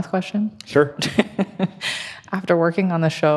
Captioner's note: laughing